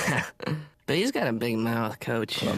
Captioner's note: laughs